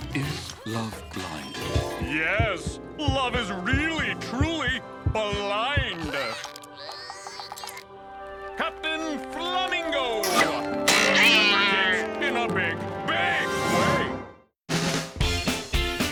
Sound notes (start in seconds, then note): 6.7 Milo groaning; 10.0 arrow flying; 10.8 cat yowling; 14.7 funky music